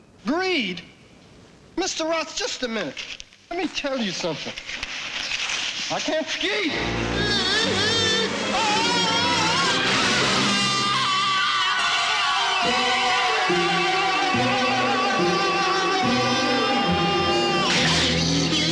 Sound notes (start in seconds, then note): 7.2 screaming; 7.7 yelling; 12.7 whistling